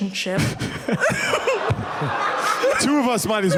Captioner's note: laughter